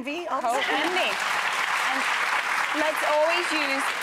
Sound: audience clapping

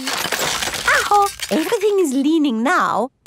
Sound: house creaking

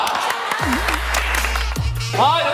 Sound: clapping

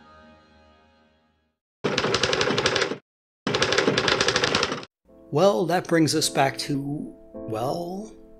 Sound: typing

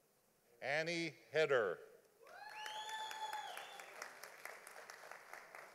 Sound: audience applauding

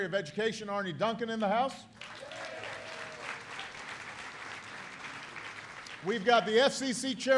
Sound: applause

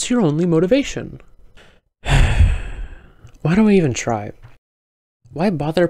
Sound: sigh

